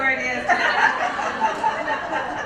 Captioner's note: laugh